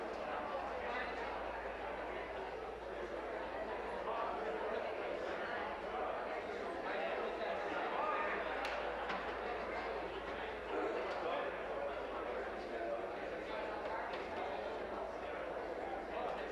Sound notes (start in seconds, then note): none